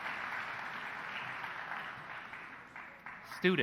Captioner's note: applause